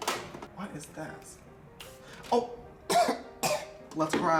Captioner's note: sprays; coughs